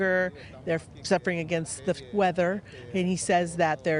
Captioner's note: speaking in native tongue